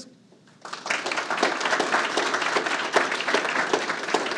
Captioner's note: audience applauding